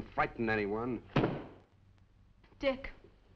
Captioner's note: book thudding